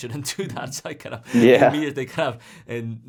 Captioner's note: laughs